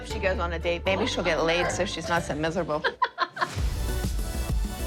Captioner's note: laughing